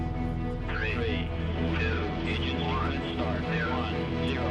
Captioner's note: radio transmission